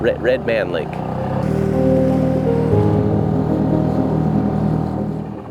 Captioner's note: boat motor hums